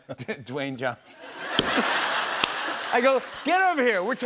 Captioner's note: laughter